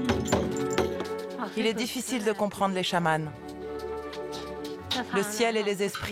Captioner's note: foreign spoken audio